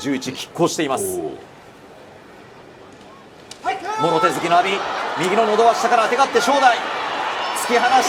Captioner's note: throat push